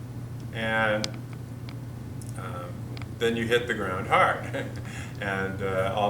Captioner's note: chuckles